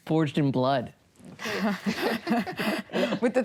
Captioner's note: laughter